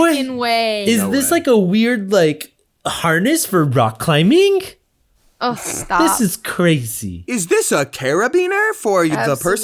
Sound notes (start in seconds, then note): 5.5 scoffs